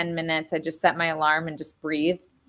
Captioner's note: none